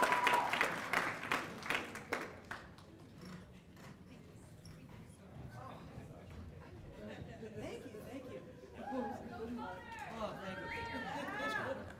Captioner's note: cheers and applause